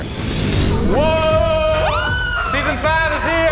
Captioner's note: contestant yelling